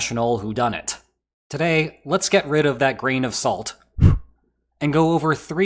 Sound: blows

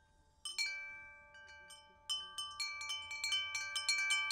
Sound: wind chimes chiming

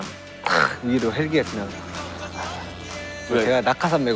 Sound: helicopter flies over the stadium

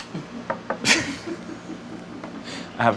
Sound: laughter

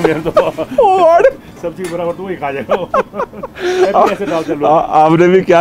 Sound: laughter

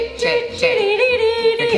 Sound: chanting

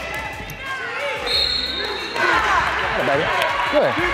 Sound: whistle

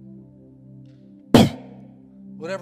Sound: air whooshes

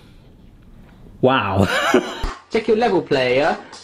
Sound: laughing

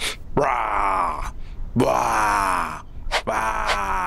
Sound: Papi growls

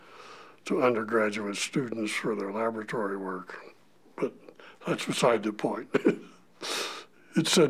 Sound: chuckle

